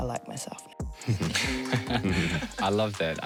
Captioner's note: laughs